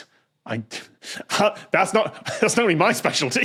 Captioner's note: cracks up